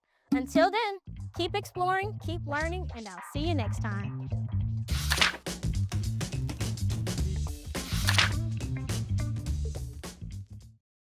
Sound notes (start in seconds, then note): 4.8 paper rustling; 4.9 upbeat music